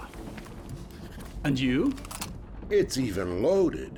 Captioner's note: clicks gun